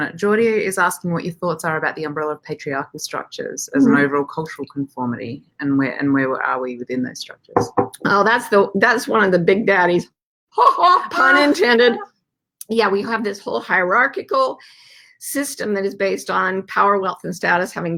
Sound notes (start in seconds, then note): 7.6 bangs glass; 10.7 sarcastic laugh